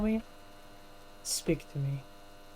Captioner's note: in a sultry voice